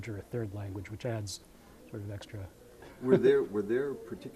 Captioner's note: chuckling